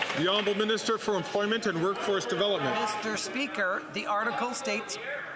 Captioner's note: some Applause